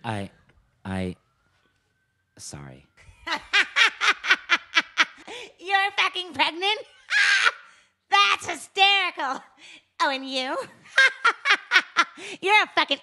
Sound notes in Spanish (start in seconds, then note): 3.1 Risa de Soraya; 10.8 Risa malvada